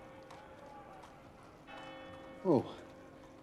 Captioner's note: church bell ringing